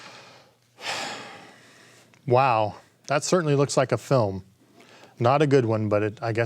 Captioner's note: sighing